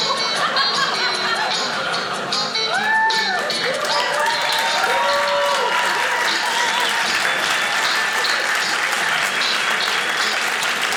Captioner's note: audience cheering